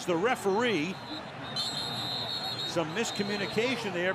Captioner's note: whistle